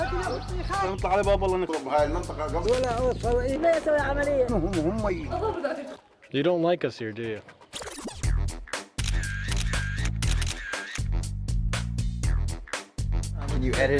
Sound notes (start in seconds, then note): 0.2 Iraqi's speaking Arabic; 8.9 sound of camera shutter